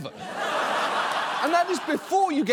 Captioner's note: audience laughs